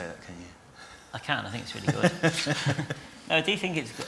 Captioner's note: laughter